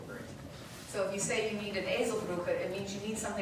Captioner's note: speaking German